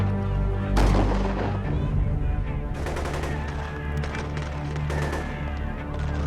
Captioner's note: guns banging; people shouting